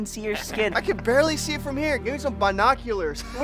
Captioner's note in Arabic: َضحك